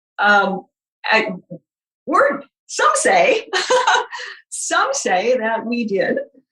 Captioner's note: laughing